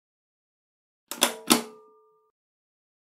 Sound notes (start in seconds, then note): 1.1 sound of switch